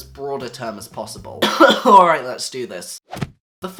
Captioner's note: cough